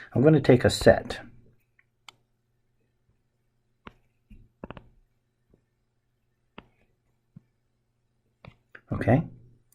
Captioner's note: writing Sounds